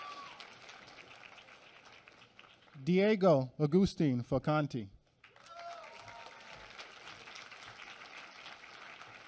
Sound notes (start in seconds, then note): 5.1 applause